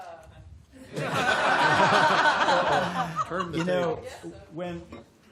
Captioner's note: laughter